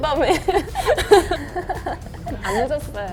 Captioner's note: haha